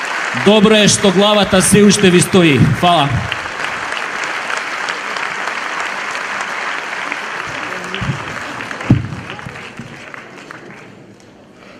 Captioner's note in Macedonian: аплауз